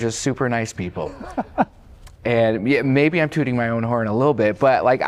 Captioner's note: laughter